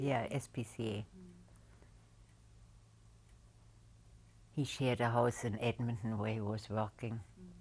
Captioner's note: pauses for 3 seconds